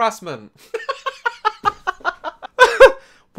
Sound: laughs

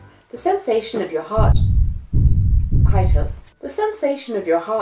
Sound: monster foot steps

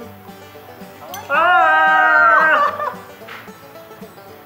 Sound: squeal of happiness

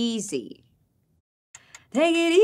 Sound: clock ticking

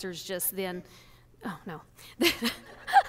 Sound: laughs

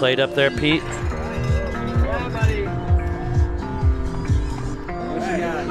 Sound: bell dinging

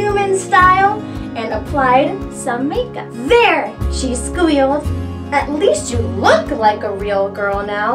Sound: none

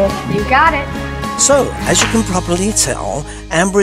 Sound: snaps

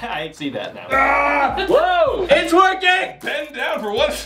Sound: laughs; growls

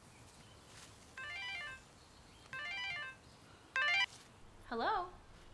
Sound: phone ringing

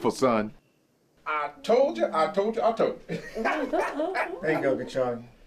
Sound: laughing

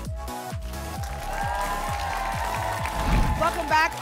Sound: applause and cheering

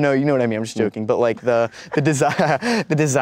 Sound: laughs

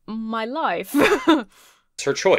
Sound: chuckles

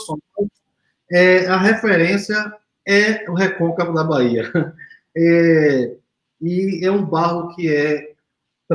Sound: speaks portuguese

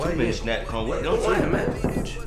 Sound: knocking on door

